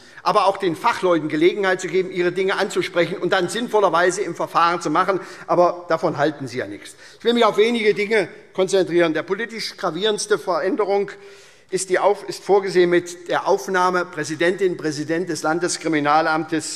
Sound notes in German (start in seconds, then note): none